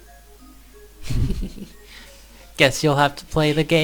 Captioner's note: both giggling